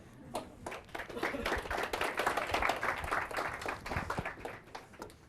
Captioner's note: audience applauding